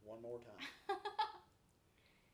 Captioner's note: laughs